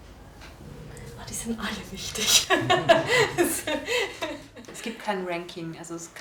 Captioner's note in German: Lacht